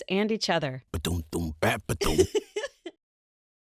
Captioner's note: happy giggle